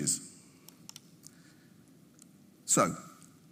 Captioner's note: mouse clicking